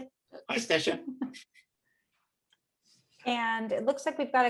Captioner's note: chuckling